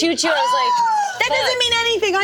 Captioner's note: squeals